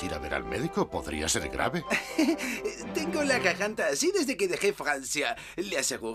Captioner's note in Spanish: ríe